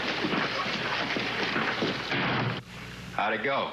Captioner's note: door closes